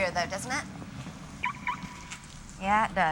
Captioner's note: car alarm beeps